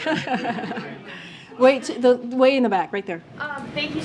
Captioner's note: laughs